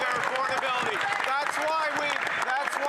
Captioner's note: some Applause